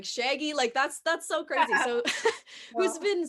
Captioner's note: laughs